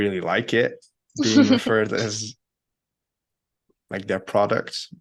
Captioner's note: laughing